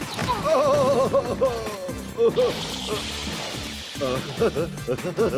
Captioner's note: crash; laughing